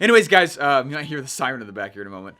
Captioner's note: siren blaring